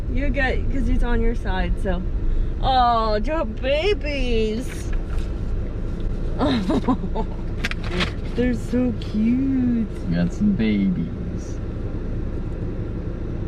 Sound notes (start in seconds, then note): 6.4 laughing